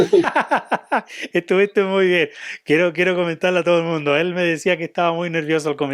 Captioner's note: laughs